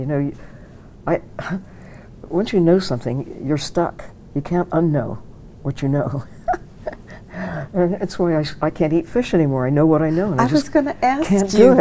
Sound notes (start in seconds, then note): 6.0 chuckles